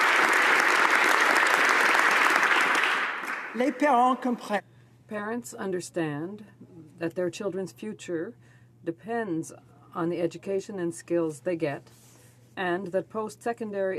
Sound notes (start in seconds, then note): 3.3 applause